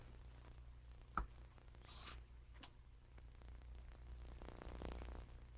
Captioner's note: footsteps